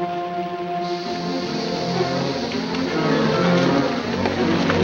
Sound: dynamite fuse hissing; suspenseful music

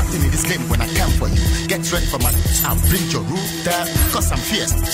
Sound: electronic buzzing

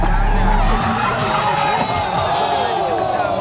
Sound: crowd clamoring

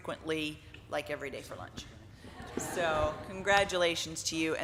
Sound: laughing

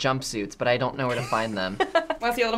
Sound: laughs

